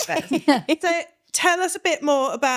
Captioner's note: laughing